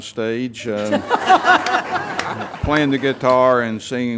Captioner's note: everyone laughs